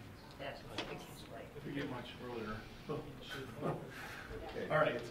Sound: laughs

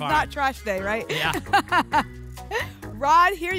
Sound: laughs

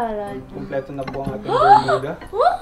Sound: gasps

